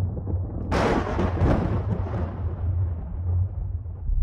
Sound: thunder crash

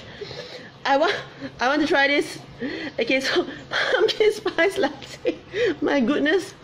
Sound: laughs

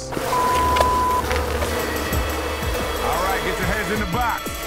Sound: bees buzz

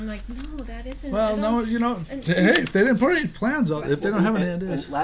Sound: voiceover

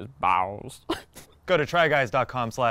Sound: laughs

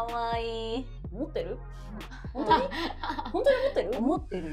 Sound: laughs

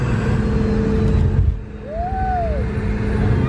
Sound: plane engines whir

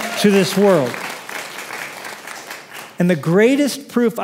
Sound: applause

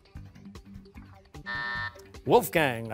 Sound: buzzer

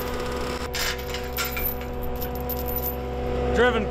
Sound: post banging; chain clanking

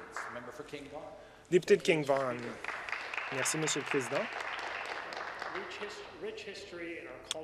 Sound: some applause

